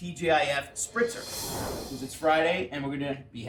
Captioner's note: swooshing sound